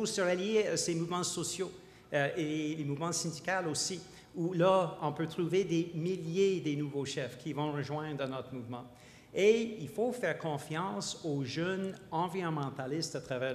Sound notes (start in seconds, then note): none